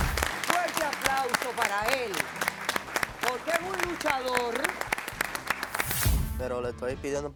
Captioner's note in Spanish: Aplausos